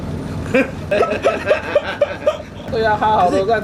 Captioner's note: laugh